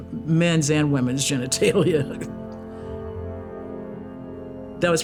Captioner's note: chuckles